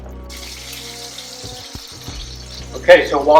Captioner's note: chicken and oil sizzling